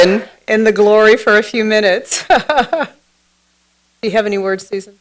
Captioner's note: laughs